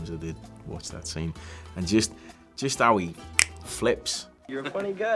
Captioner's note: clicks fingers